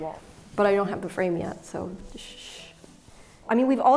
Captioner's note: shushes